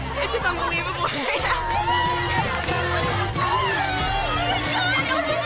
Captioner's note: cheerleaders chatting